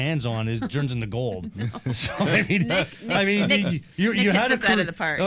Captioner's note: chuckling